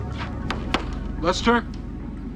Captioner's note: door knock